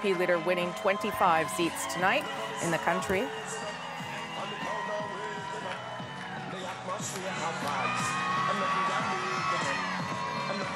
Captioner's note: cheers and applause